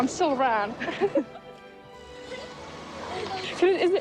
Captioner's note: both chuckling